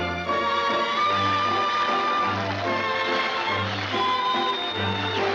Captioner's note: pleasant music; audience applauding